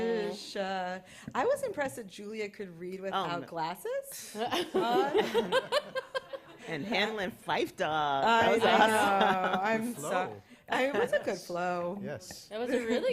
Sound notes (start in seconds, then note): 4.2 laughter